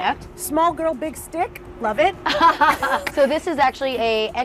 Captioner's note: both laugh